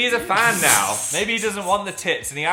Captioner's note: Dan laughing